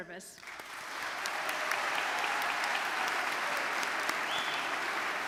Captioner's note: audience cheering and clapping